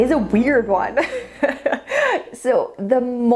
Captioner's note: laughs